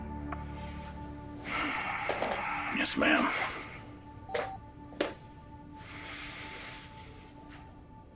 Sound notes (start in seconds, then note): 4.2 phone beeps